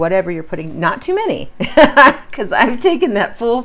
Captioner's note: laughs